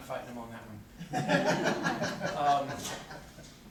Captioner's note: corporate laughter